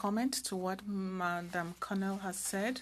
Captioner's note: speaking french